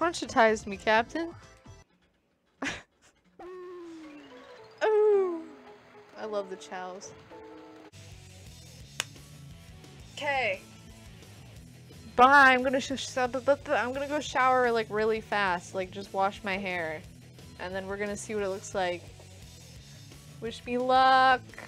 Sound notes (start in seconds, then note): 3.6 impersonates baby coo